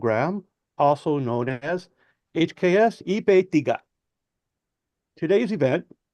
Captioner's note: foreign language